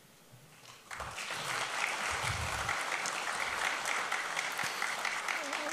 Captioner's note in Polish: oklaski